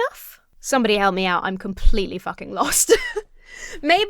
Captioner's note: laughs